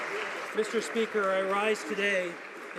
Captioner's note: some Applause